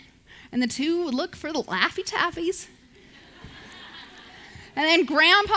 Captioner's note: audience laughs